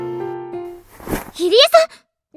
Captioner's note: thud